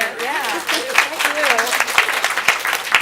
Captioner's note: applause